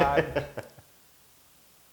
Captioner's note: laugh